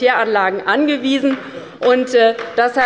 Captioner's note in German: Heiterkeit und Beifall bei der LINKEN